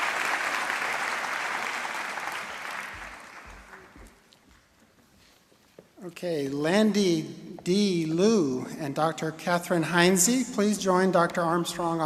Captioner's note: applause